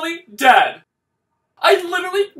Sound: silence

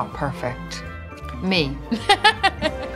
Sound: laughs

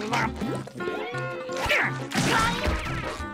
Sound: grunting

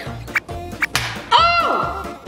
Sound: egg shell cracking

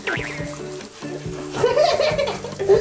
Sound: hehehehe

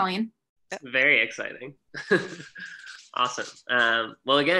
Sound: laughs

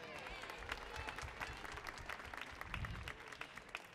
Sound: audience applauds

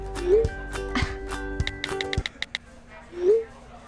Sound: light music; scoffs

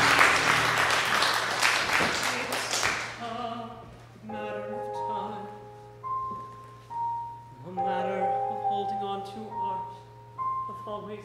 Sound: applause

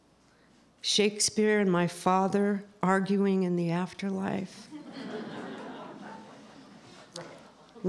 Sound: laughter

